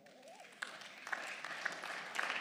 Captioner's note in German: Beifall